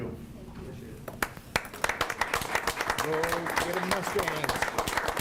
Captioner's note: clapping